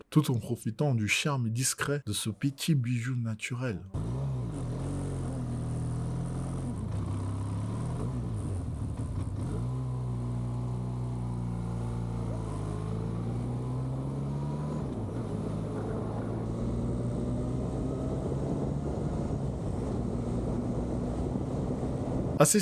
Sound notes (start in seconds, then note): 4.1 hum of engines